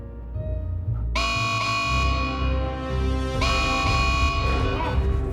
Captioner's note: alarm blaring